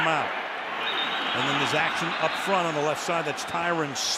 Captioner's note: whistle